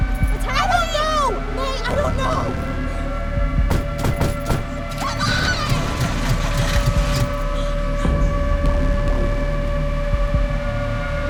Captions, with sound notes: -What's happening? -I don't know. -What's happening? -I don't know. -[screaming] Come on. -[engine rumbles] [tense music playing]